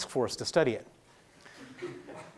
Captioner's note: laughing